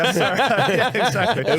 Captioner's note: laughing